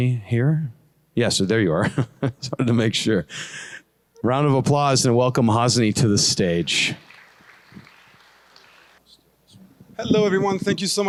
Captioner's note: laughter